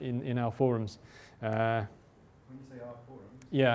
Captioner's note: voiceover